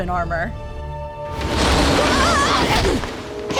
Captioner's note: wind howls